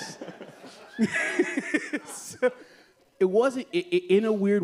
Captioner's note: laughs